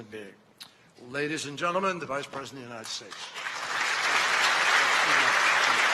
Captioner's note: applause